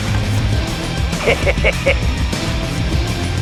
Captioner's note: cackling laughter